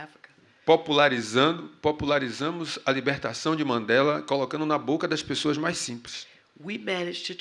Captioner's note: speaking portuguese